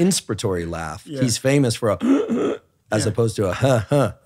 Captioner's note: inhaling